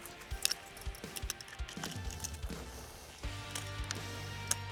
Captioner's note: chain clinking